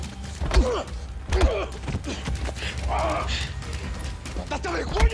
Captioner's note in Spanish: Golpes